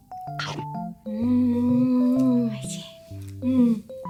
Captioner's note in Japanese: もぐもぐ